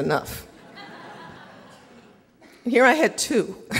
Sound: audience laughing

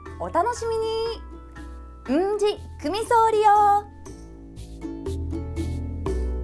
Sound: in Okinawan

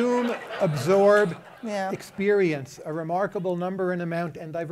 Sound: laughter

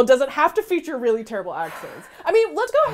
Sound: sighs

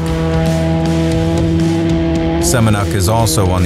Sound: engine revving

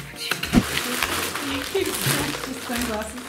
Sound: plastic crinkling

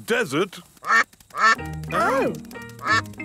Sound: quacking

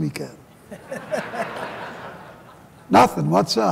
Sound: laughter

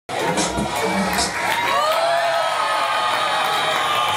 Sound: applause

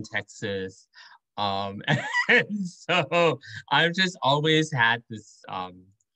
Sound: laughter

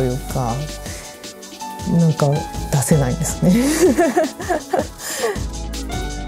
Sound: laughing

